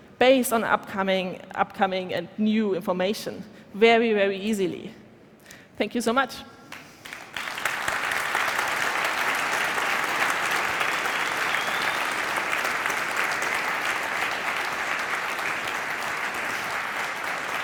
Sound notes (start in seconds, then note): 9.5 applause